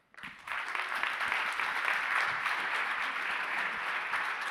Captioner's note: audience applauds